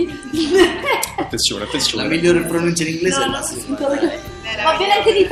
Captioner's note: laugh